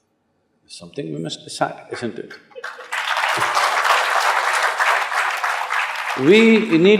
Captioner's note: applause